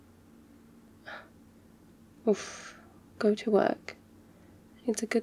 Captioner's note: smol gasp